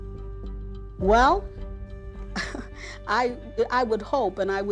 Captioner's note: chuckles